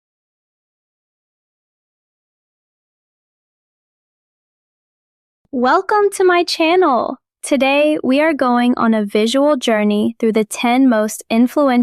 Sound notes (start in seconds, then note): 5.6 excited